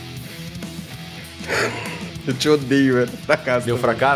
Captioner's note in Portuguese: risada